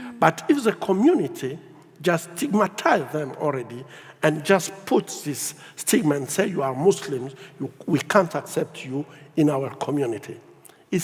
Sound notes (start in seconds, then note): none